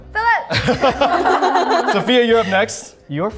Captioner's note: everyone laughs